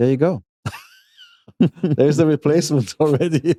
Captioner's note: laughs